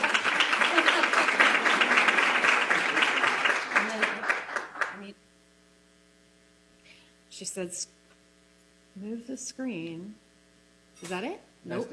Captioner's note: applause